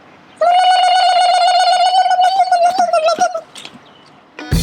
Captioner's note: gobble call